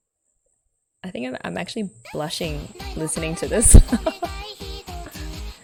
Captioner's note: laughs